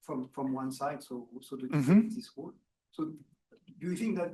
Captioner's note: speaking faintly